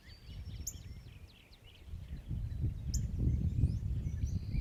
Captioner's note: wind rumbles